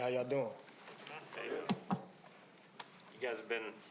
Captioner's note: crowd Murmuring